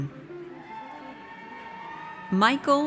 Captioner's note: audience cheers